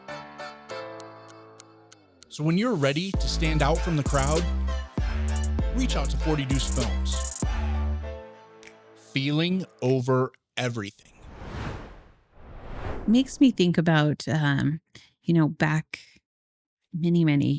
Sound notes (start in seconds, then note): 11.1 whoosh